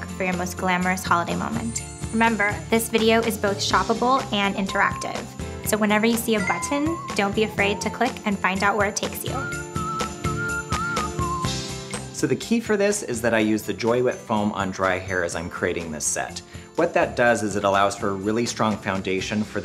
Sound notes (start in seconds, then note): 6.2 bells